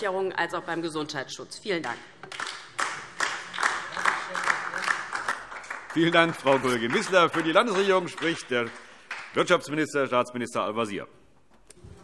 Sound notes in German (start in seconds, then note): 2.2 Beifall DIE LINKE